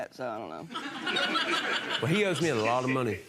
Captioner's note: audience laughing